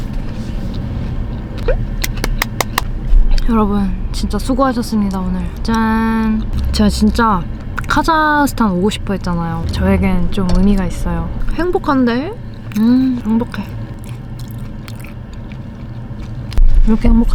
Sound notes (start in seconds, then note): 2.1 applause comes spontaneously